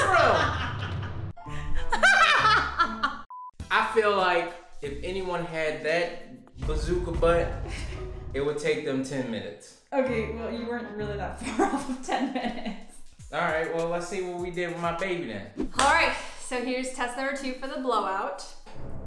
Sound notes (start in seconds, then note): 1.6 woman laughing; 3.3 beep; 11.6 chuckles; 18.6 dramatic music